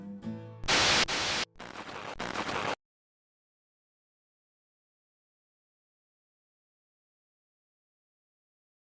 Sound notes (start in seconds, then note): 0.6 radio static noises